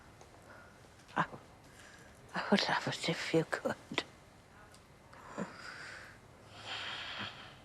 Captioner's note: sighing